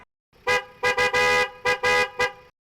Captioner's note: horn honking